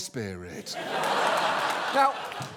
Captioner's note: audience laughs